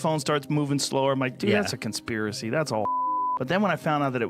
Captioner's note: beeps